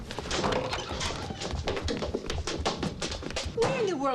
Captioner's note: footsteps pattering; door clunks